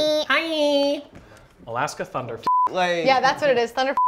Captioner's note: beep